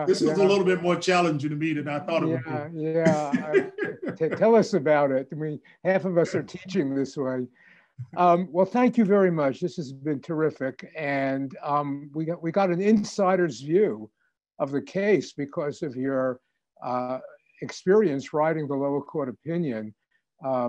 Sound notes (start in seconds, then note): 3.0 laughing